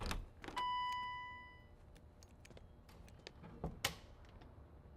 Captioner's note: door bell dinging